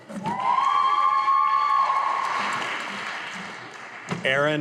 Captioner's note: audience applauding